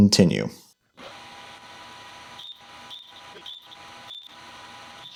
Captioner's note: machinery whirring